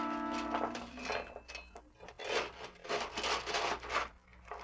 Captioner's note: paper rustling